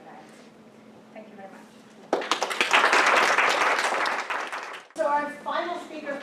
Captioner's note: applause